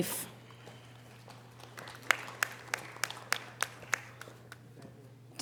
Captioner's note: audience applause